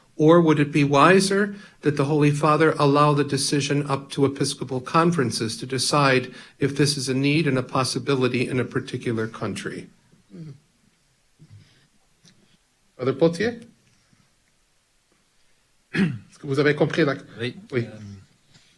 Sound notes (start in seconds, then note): 13.6 speaks in foreign language